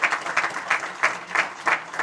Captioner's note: applause